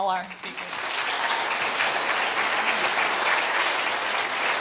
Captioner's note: audience clapping